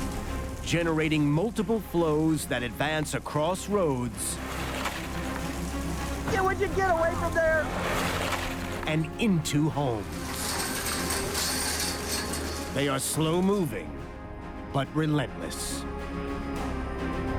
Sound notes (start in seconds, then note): 0.0 hissing; 9.8 gate rattling